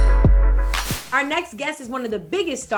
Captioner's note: scene whooshing